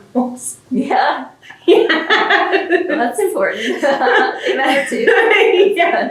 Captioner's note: laughter